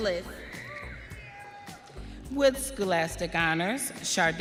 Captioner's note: audience cheering